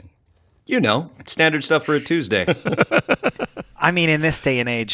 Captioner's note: laughs